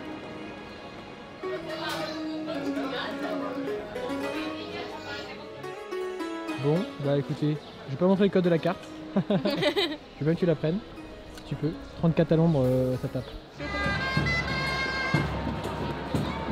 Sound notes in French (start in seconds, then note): 9.2 rire